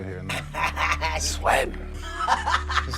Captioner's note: laughs